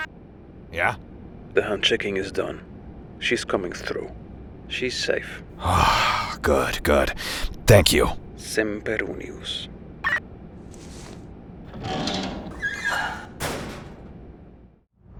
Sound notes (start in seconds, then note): 5.6 KIA sighs in relief